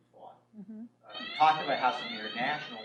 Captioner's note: alarm blares